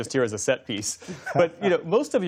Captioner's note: laughter